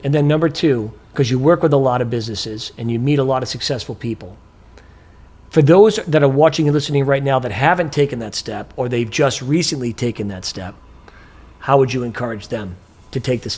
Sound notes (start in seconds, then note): none